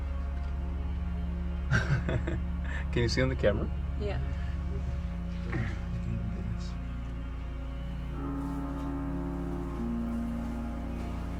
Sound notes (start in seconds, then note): 1.7 laughing; 6.9 eerie music